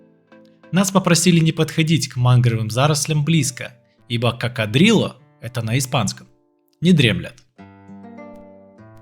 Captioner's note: that's in Spanish